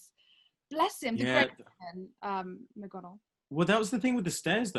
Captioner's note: speaking faintly